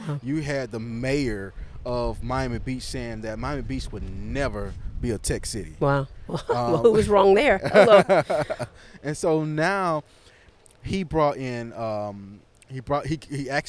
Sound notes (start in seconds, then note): 6.3 laughs